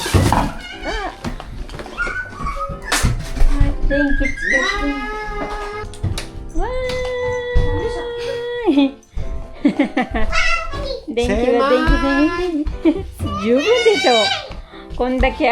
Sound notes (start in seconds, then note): 9.6 laughter